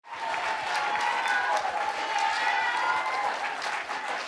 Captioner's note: audience cheering